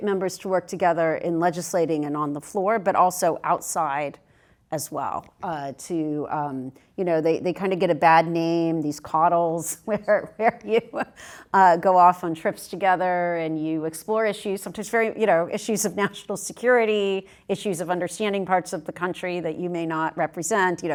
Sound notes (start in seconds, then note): 9.9 laugh